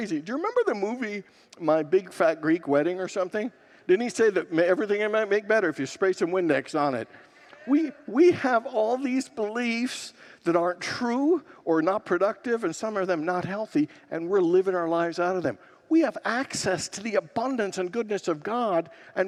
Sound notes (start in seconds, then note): 7.2 congregants laugh